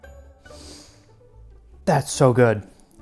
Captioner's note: deep breath